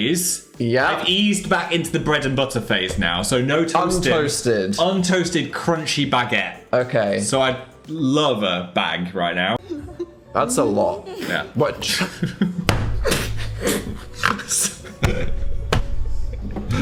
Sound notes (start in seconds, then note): 11.0 Dan and Phil laugh